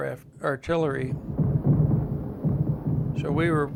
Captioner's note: loud explosions